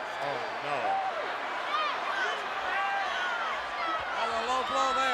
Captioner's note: crowd chattering